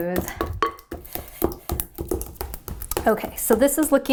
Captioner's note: pounding